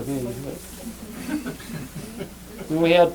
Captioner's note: laughter